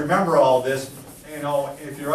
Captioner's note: eraser scrapes board